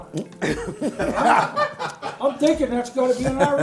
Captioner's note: group laughs